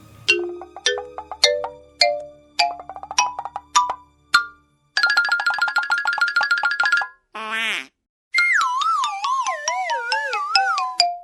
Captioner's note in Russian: прикольные мультяшные звуки